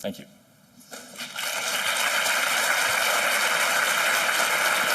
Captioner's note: applause